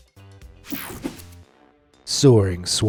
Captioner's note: screen whooshing